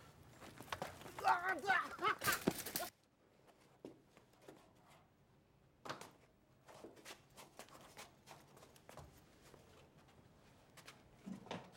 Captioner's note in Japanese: 倒れる音